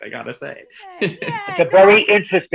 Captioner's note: laughing